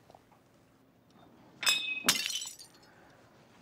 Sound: cup and saucer clatter

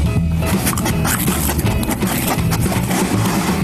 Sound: snuffling

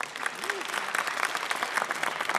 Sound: applause

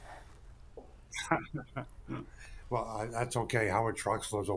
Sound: chuckles

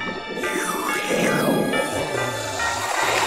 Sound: slurping

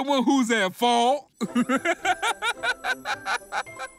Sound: giggling

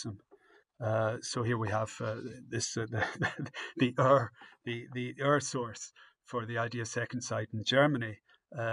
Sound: laughs

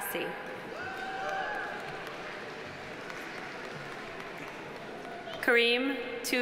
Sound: audience cheering; audience applauding

